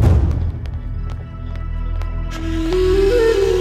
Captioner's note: Footsteps